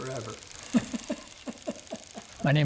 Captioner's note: laughing